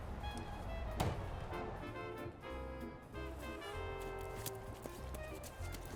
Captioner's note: sound of door closing; sound of footsteps running in snow